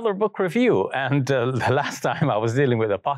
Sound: chuckles

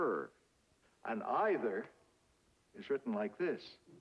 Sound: draws out pronunciation; draws out pronunciation

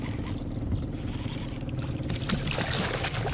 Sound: reel cranking; fish splashing

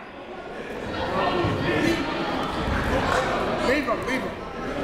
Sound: crowd talking

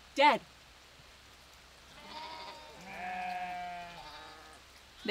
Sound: sheep BAA-ing

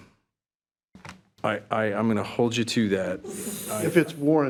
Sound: trustees chuckling

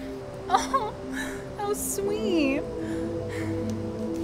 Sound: sighs

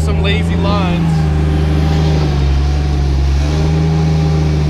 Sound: engine revving

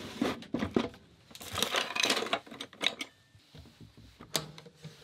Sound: cutlery clanking

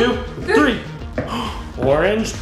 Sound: gasps

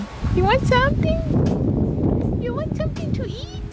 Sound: wind rustles on microphone

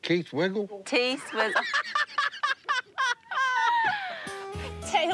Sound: laughter

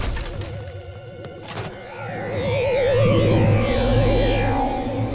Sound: none

